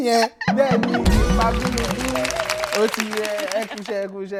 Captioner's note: laughs